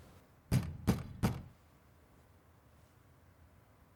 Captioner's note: knocking on door